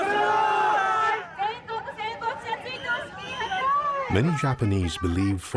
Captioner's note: protestors shouting in Japanese; shouting in Japanese